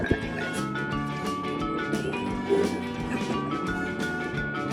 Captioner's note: humming